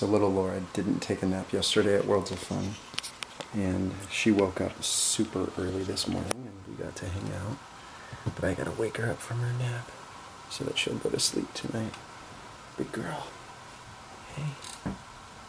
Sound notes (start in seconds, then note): none